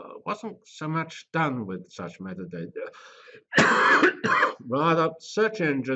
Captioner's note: cough